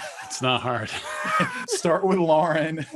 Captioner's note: all laughing; chuckling